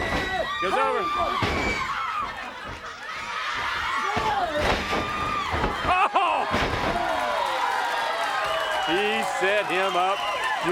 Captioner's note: crowd cheering